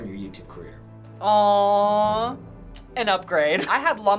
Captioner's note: chuckles